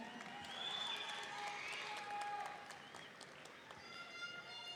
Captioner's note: audience cheering